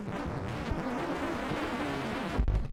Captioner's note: record scratches